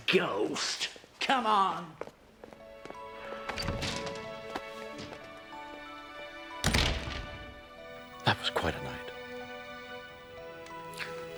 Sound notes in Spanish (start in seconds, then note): 6.6 la puerta se cierra; 6.7 música suave